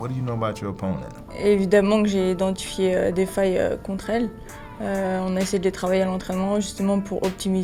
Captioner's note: R&B music; speaking in French